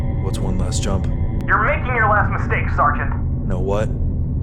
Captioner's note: over Comms